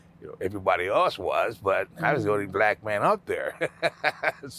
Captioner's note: laughing